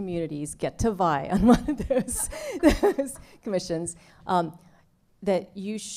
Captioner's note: laughter